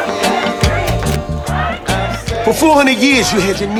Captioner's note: crowd shouting